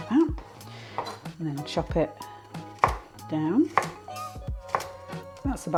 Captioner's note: chop chop chop